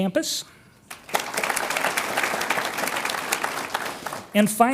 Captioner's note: audience applauds